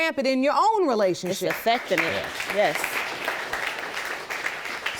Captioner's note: audience applauds